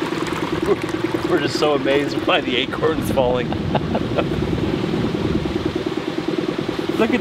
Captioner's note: chuckles